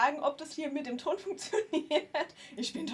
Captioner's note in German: gelächter